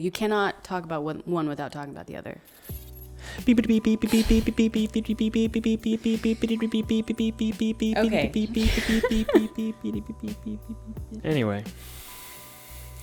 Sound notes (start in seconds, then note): 3.7 says "beep" repeatedly; 9.7 laughs